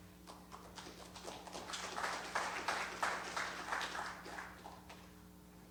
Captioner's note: audience applauds